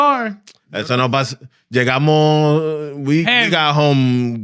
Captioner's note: speaking In Foreign Language